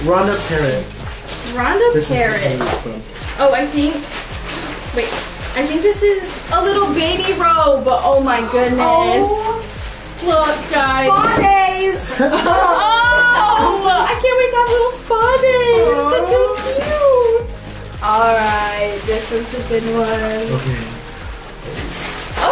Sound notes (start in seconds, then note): 12.0 laughing